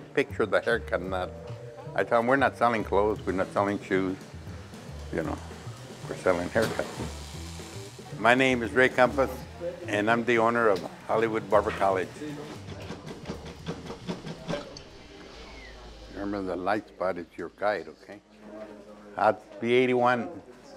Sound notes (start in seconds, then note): 12.0 click, click, click